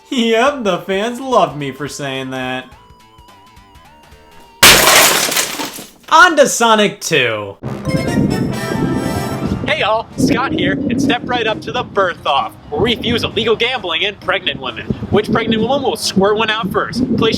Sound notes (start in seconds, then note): 4.6 bottle shatters; 7.7 upbeat music